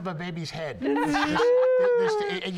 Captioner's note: laughter